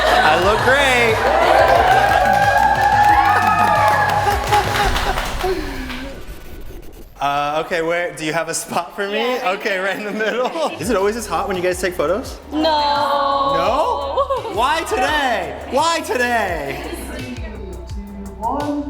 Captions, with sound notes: I look great. [cheering] [laughs] Okay. Where do you have a spot for me? -Yes. Right there. -Right in the middle? Is it always this hot when you guys take photos? -No. -No? Why today? Why today? -Three, two, one.